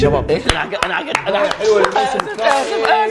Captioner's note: applause